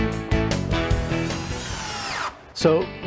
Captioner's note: electric drill buzzes